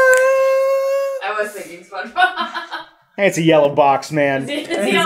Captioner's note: laughs